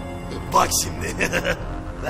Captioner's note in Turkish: gülme sesi̇